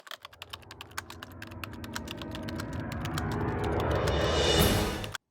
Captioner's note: typing sounds